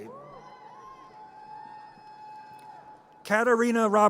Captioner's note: audience cheers